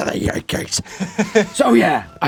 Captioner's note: laughs